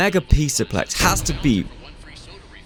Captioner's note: bang